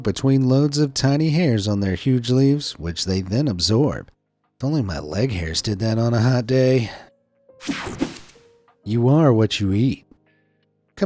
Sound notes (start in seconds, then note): 7.6 screen swishing; 7.6 screen whooshing